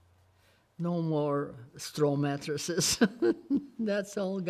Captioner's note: laughs